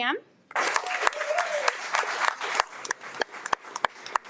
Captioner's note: audience applauding